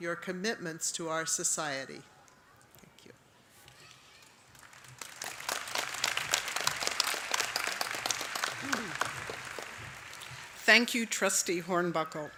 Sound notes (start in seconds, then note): 4.2 applause